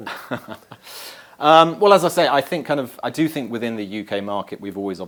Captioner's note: laugh